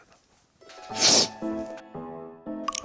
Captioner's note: sniff